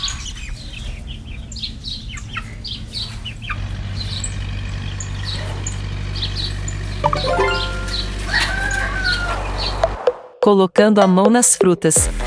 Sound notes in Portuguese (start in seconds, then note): 0.1 Pássaros; 8.2 Galo cantando